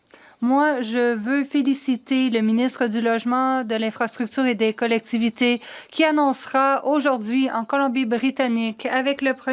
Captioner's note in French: voix de l'interprète